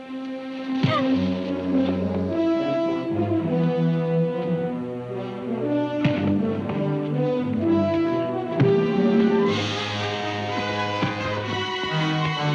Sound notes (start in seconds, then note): 0.8 Reb grunts; 2.1 exciting music; 2.1 fists thunk